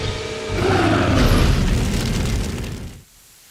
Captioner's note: roars